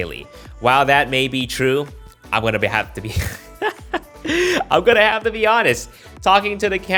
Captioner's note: laugh